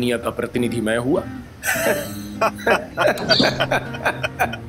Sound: both laugh

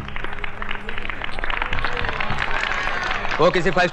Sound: crowd Applauding

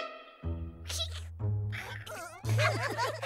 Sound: all giggle

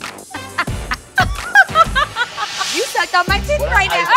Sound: laughing

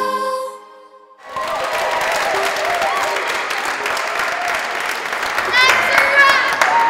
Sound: applause

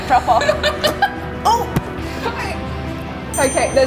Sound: laughing

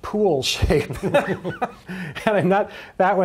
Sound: laughing

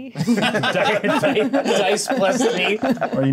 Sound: co-hosts laughing

